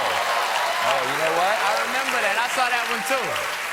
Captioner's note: cheers and applause